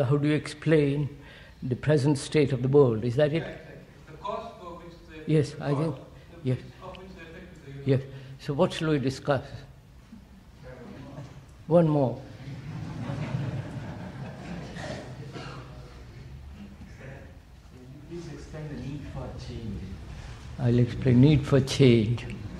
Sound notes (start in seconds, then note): 15.2 laughter